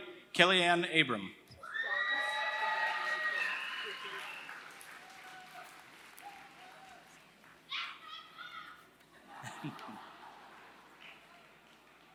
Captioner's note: applause